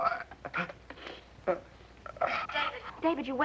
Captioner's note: groaning